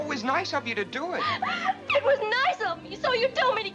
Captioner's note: sobs